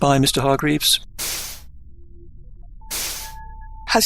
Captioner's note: doors swish